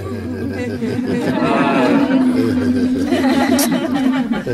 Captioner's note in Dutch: gelach